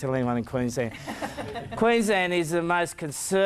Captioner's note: crowd laughs